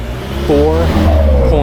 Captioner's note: vrooom